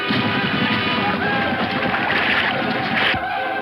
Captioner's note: Indians yell